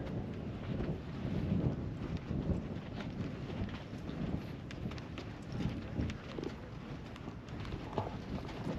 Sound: wind blowing

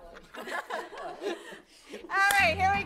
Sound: all laughing

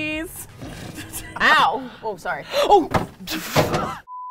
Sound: all laugh; gasp; canvas clatters

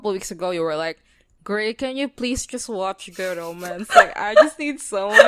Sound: laughs

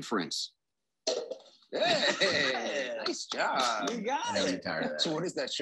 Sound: both cheering

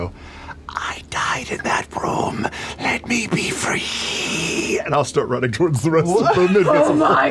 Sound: whispering

